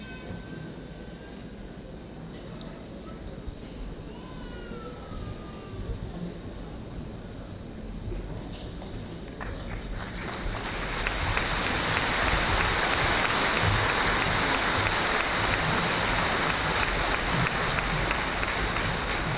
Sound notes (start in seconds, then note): 10.6 audience applauding